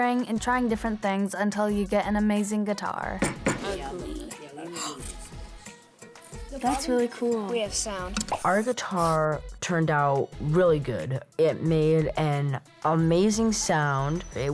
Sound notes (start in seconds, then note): 4.5 gasping; 4.6 guitar playing; 7.7 video popping